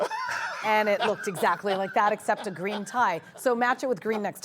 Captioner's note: laughter